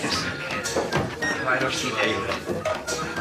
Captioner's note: chattering